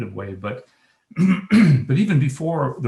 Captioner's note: clears throat